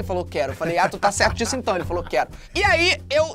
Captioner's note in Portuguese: risadas